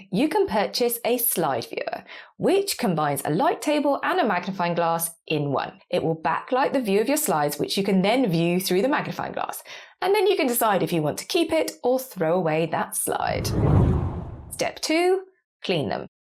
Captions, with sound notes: You can purchase a slide viewer, which combines a light table and a magnifying glass in one. It will backlight the view of your slides, which you can then view through the magnifying glass, and then you can decide if you want to keep it or throw away that slide. (graphic whooshes) Step two, clean them.